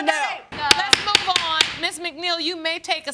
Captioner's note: gravel banging